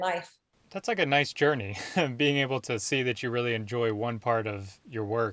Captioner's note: laughs